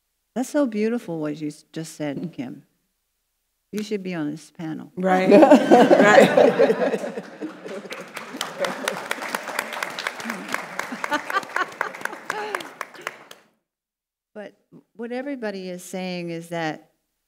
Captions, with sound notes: That's so beautiful, what you just said, Kim. You should be on this panel. (panelists laughing) Right. (audience applauds) But what everybody is saying is that,